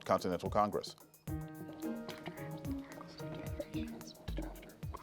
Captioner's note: players whisper